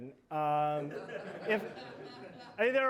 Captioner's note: laughter